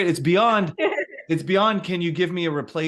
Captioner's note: laughing